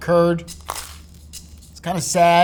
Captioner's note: upbeat music; sandwich rustling